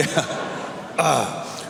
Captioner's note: clears throat